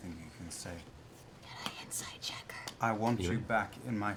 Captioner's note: whispers